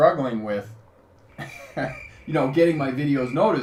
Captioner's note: chuckles; crickets chirping